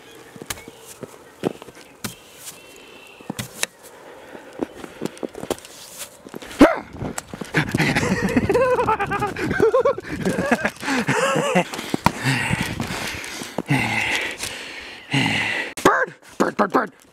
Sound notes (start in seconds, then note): 1.4 scraper brushing; 6.6 yelling; 7.5 laughing psychotically; 12.0 breathing heavily